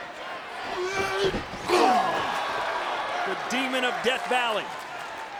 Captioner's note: fighters grunting